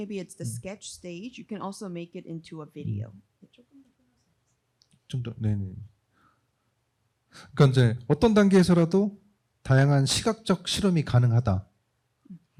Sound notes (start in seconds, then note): 5.0 speaking korean